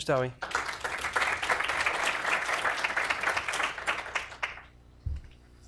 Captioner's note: applause